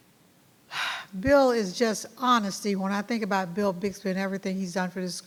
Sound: sighs

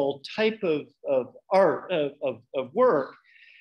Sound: none

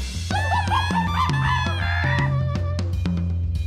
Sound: monkey chirping

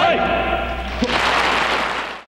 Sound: audience applauding

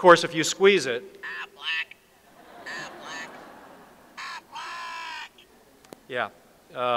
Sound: audience laughs

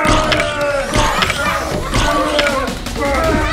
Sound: groans

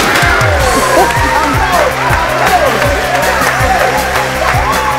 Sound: cheers

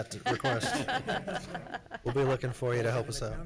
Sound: congregation laughing

